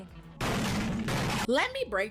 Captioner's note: gunshots